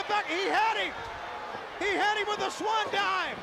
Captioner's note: crowd cheering